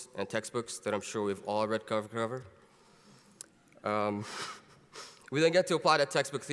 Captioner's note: laughs